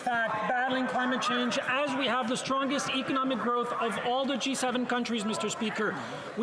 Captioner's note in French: voix de l'interprète